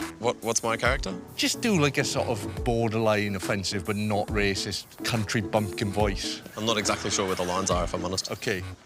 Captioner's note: none